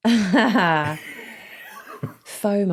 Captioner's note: laughs flatly; wheezes